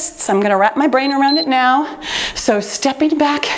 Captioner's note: timer beeps